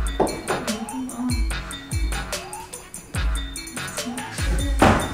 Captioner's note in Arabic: غمغمة